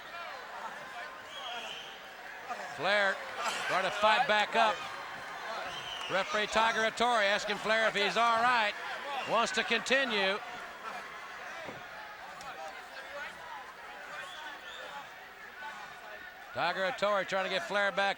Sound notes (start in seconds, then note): 0.1 audience chattering; 10.8 audience chattering